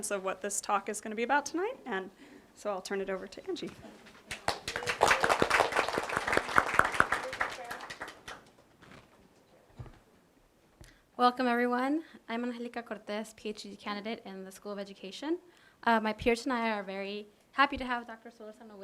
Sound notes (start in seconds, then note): 4.2 applause